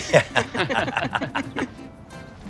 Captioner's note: laughs